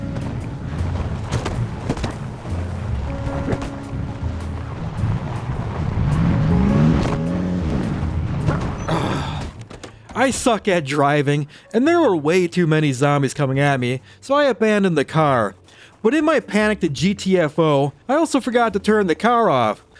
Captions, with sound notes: (car engine) I suck at driving and there were way too many zombies coming at me, so I abandoned the car. But in my panic to GTFO, I also forgot to turn the car off.